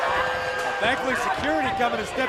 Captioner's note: cheers and boos